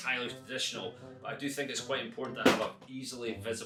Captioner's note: banging noise